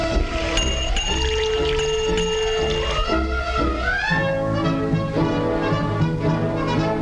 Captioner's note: liquid gurgling; bell dinging